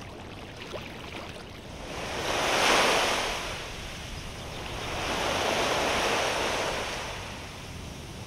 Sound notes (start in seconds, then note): 1.8 waves